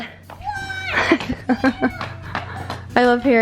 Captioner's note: laughing